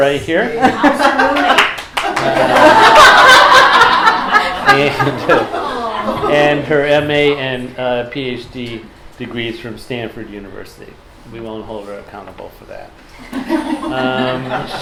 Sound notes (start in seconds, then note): 2.0 laughter